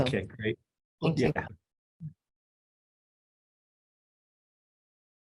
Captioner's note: audio distorting